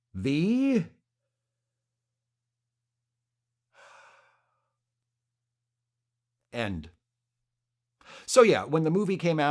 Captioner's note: deep breath, exhale